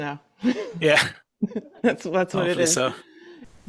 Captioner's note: laughing; laughs